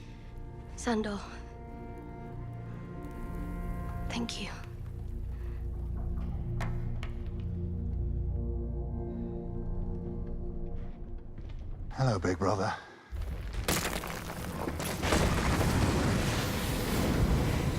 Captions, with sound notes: Sandor... Thank you. SANDER "THE HOUND: CLEGANE: Hello, big brother. (DEBRIS FALLING)